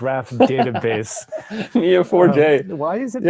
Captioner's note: everyone laughs